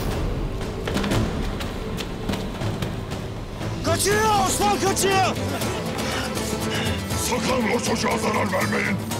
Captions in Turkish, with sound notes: (Hep bir ağızdan) Kaçıyor! Osman kaçıyor. Sakın o çocuğa zarar vermeyin...